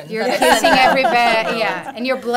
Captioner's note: laughter